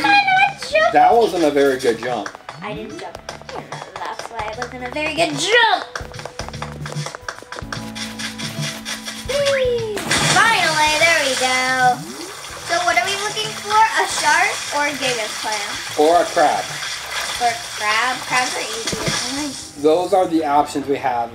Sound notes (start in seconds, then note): 6.9 footsteps; 9.2 cheering; 10.0 splashing into water